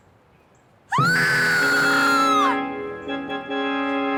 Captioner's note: Lisa screaming